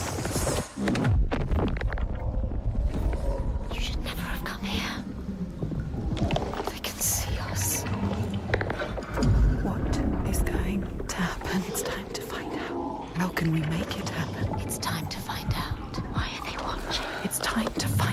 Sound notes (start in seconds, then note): 1.0 eerie whispering